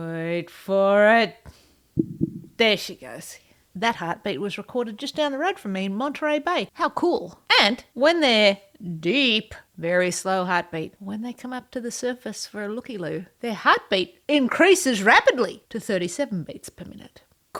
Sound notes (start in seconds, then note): 1.9 whale heart beat sound